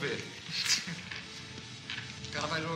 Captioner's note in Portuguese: risada